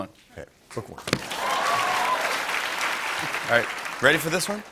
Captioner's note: cheers and applause